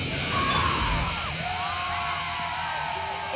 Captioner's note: fans screaming